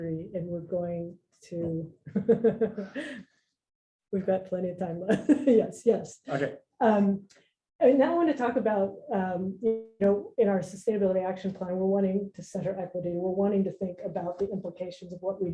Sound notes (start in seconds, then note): 1.8 laughs